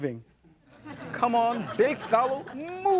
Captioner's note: crowd laughing